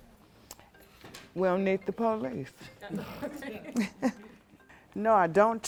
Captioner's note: laughs